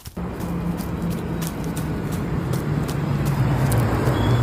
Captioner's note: bus Approaches